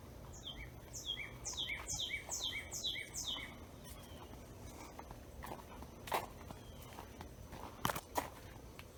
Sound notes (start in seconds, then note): 2.5 birds chirping; 2.5 footsteps tapping